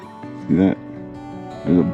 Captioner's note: laughs